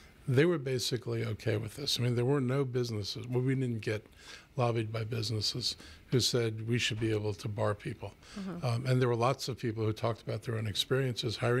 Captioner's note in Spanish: Hablando ingl\s